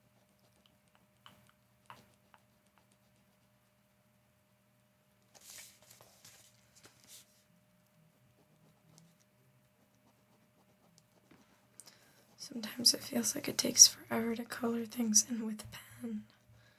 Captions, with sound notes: (Silence) sometimes it feels like it takes forever to color things in with a pen